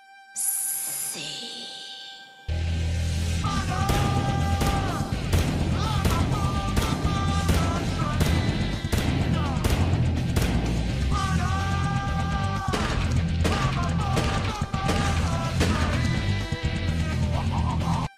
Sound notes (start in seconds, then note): 3.4 murder train + gunshot noises